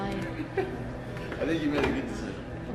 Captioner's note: chuckles